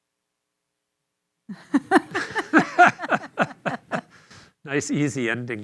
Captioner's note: laughter